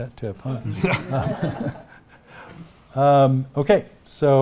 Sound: audience chuckling

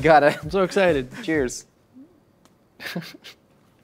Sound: laughs

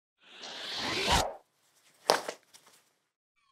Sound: picture wooshes

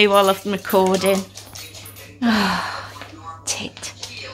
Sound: sighs

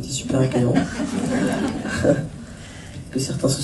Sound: laughs

